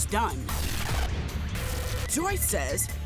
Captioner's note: intense music; TV interference buzzing